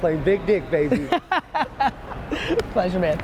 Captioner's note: laughing